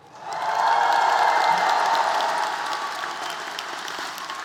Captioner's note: cheering